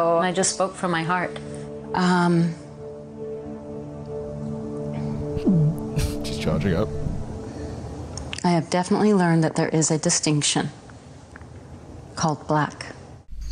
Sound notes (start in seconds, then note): 3.0 suspenseful music; 5.7 gulps